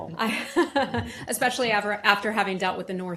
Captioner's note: laughter